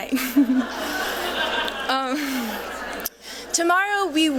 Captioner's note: laughter